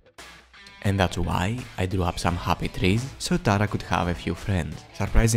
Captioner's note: cheap Bob Ross voice